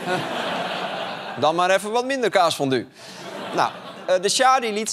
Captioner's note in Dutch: gelach